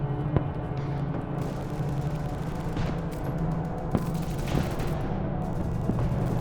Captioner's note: ominous music; guns firing